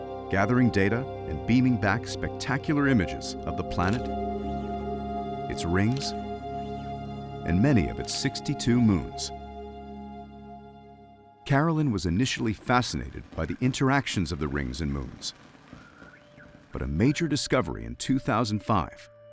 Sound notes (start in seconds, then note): 4.0 camera shutter; 8.0 camera shutter; 15.5 radio static